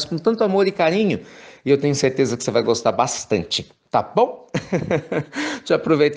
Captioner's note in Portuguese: risos